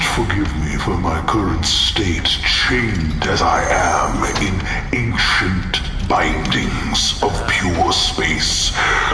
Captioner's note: rattling chains